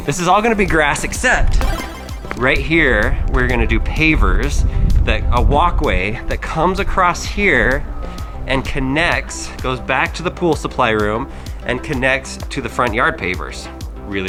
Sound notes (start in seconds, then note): 1.6 power up sound